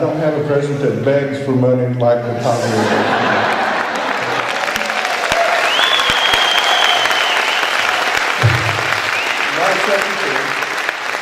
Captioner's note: laughter, applause, cheering